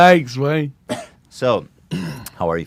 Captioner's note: transitional cough